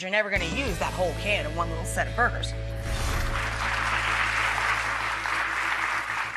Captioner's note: crowd applauds